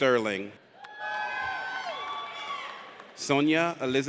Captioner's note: audience cheers